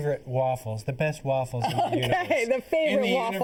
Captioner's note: laughing